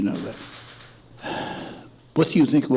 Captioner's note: deep sigh